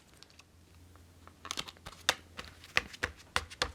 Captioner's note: paper crinkling